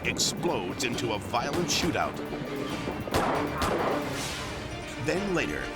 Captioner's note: guns firing